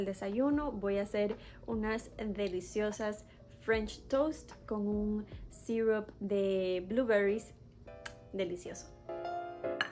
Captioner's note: muah